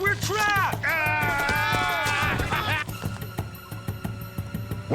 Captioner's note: yelling